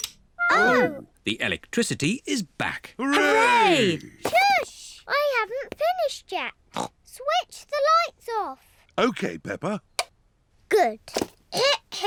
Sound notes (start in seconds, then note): 6.7 snorts